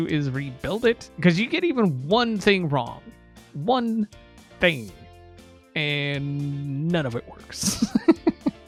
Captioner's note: laughs